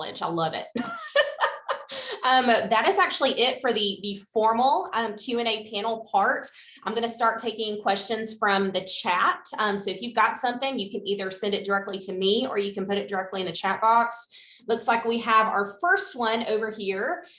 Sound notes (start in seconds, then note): 0.8 laughs